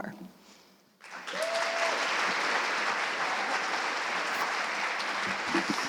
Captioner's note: applause